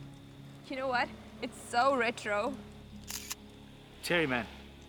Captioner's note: shutter snapping